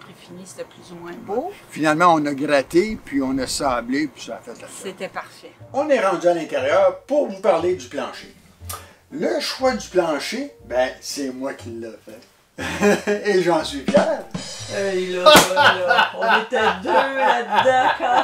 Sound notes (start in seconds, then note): 14.8 laughs